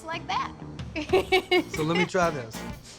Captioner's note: giggling